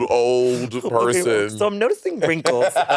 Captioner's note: laughing